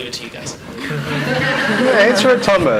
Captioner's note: everyone laughs